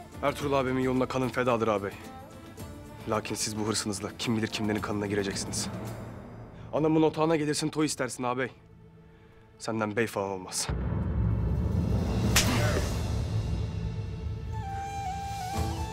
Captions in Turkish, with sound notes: Ertuğrul ağabeyimin yolunda kanım fedadır ağabey. Lakin siz bu hırsınızla kim bilir kimlerin kanına gireceksiniz. Anamın otağına gelirsin, toy istersin ağabey. Senden bey falan olmaz. (Tokat sesi)